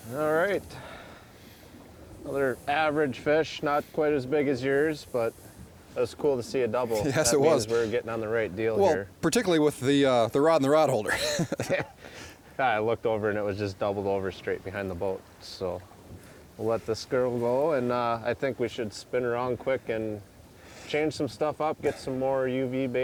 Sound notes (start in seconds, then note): 10.9 laughing